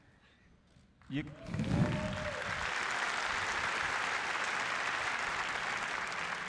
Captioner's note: applause